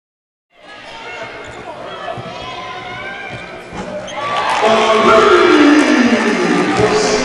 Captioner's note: crowd cheering